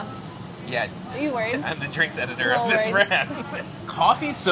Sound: laughs

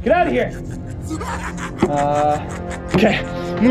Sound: clown laughing

